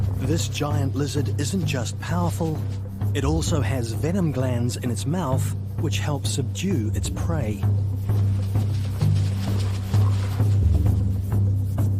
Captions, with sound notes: This giant lizard isn't just powerful, it also has venom glands in its mouth which helps subdue its prey. (feet scuttling)